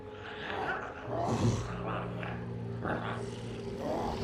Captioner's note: Smelly grunts; glowzies growling